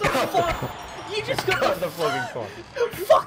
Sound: wheeze

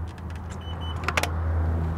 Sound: system beeps

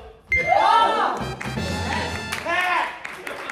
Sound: sound effects:ta-da

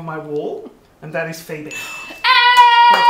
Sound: gasps; group cheers

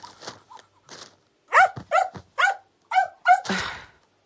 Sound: dog barking

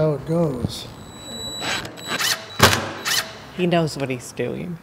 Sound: electronic tool drills

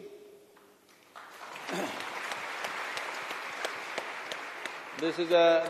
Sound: applause

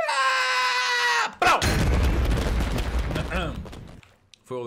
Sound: yelling; totem pops; clears throat

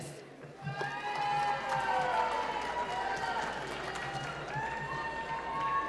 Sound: cheering and applause

